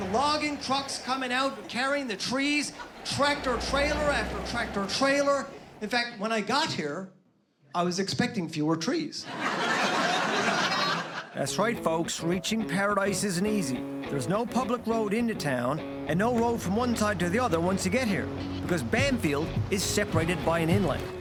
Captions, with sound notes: trucks coming out, carrying the trees. Tractor trailer, after tractor trailer. In fact when I got here I was expecting fewer trees. (laughter) That's right folks, reaching paradise isn't easy. There's no public road into town. and no road from one side to the other once you get here. Because Bamfield is seperated by an inlet.